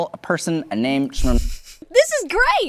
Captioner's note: chuckles